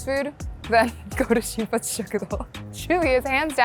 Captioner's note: laughing